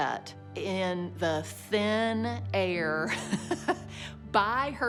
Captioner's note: laughs